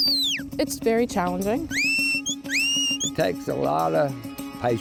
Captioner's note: whistling; whistling